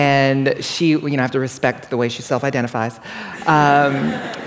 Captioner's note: laughter